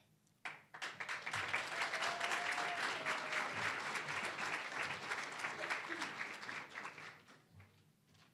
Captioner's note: applause